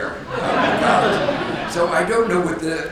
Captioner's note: audience laughs